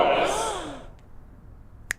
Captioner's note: girls gasping